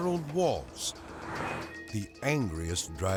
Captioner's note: car whooshing